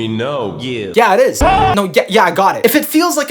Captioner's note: screams